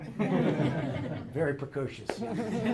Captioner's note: laughter